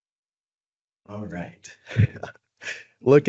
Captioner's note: brief laughter